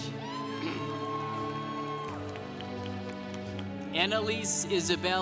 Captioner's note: congregation cheering